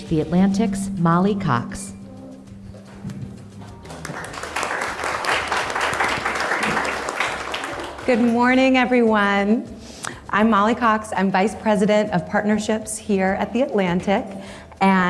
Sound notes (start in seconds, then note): 3.8 audience applauding